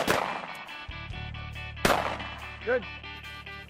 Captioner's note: booming